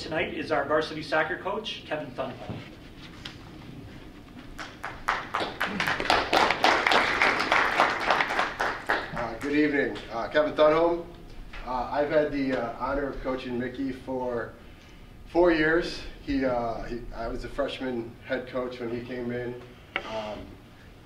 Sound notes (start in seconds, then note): 4.5 applause